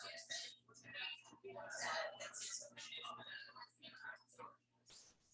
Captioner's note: people chattering indistinctly